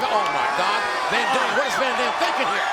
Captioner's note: crowd cheering